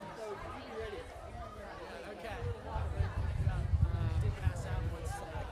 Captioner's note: audience talking amongst each other